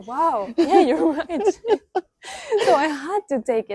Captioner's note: laughs